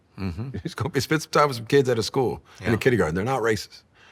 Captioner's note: chuckling